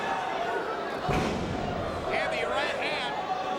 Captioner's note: crowd vocalizing continues; fist pounds